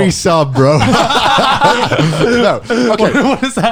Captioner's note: laughs